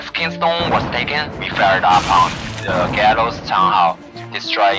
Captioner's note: explosion